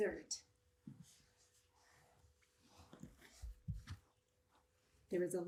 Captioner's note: markers brushes whiteboard